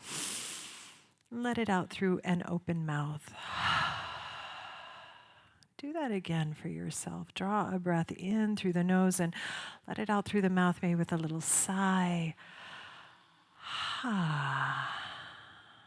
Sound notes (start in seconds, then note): 0.2 inhales; 4.4 exhales; 9.1 inhales sharply; 13.8 sighs